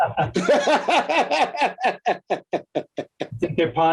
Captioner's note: laughs